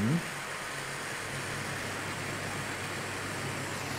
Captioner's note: hissing